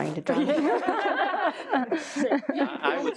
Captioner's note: all laughing